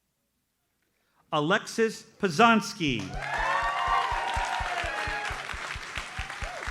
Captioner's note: audience cheers and applauds